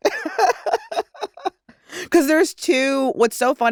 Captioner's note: laughter